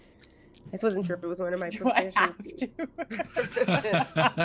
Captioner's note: laughs